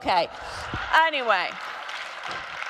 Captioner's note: audience applauding